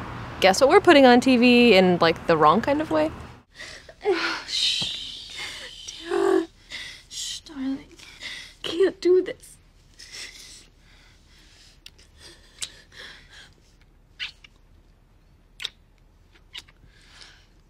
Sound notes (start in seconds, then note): 4.1 crying; 11.5 kissing